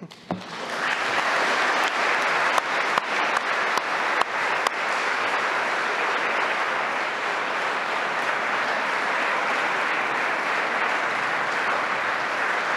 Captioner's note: applause